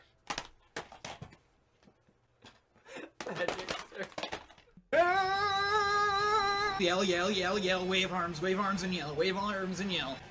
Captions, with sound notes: (contagious laughter) Magic Circus. *screaming his lungs out* Yell yell yell yell yell yell, wave arms! Wave arms and yell! Wave arms and yell!